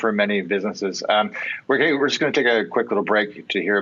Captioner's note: stammers